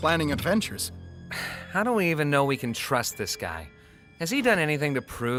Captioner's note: sighs